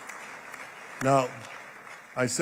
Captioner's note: applause